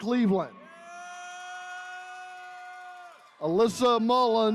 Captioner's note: attendees cheering